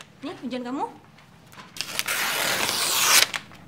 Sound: rips paper

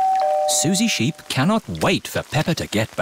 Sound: doorbell rings

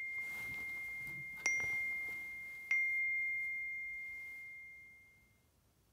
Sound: ding, ding, ding, ding, ding

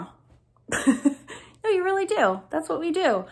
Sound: laughs

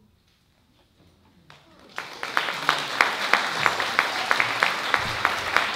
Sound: applause

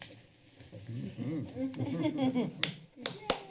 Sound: laughing; applause

